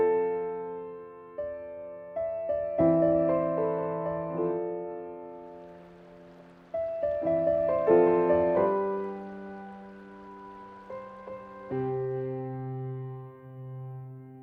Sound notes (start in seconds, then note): 6.4 babbling water